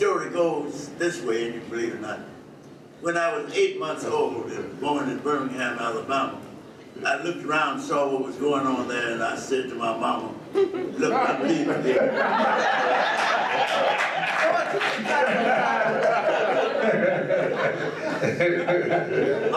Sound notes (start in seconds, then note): 11.3 audience erupts into laughter